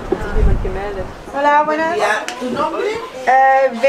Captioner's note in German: auf Spanisch